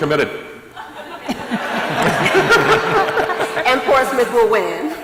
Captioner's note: laughter